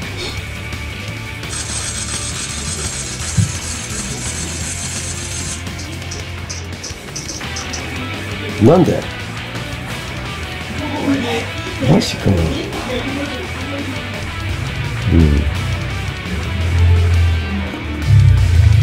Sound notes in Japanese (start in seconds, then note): 1.5 ゲームの効果音